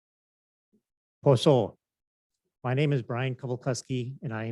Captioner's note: foreign language